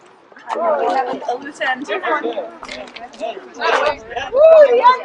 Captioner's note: approving noises